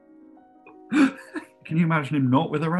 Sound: giggling

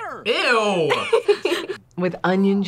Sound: laughs

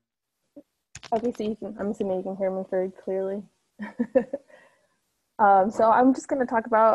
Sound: laughs

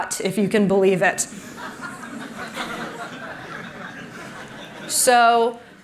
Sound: laughter

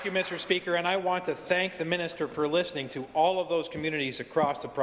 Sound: applause

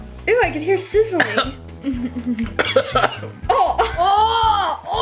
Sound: coughing

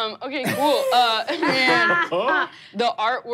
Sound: laughing

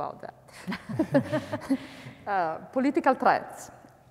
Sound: panelists laughing

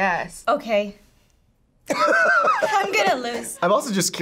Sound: laughs

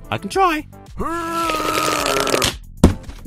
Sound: squirtgun grunting

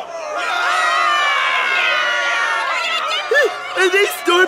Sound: murmuring

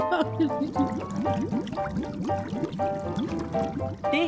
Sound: water bubbling up

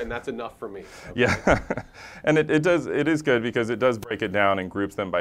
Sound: laugh

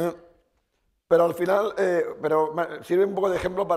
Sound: speaking spanish

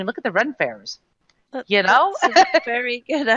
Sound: laughing

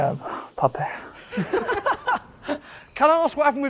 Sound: laughter

